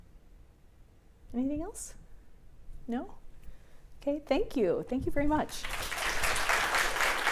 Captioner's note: applause